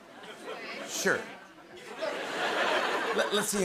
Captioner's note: laughter